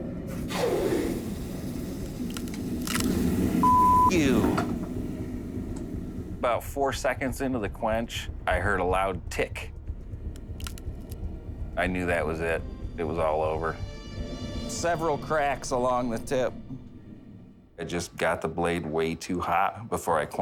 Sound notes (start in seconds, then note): 0.0 sizzling; 2.3 cracking